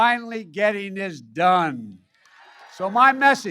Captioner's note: applause